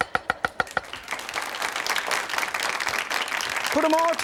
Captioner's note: audience applauds